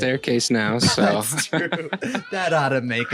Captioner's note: laughs